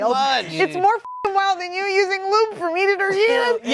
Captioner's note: beep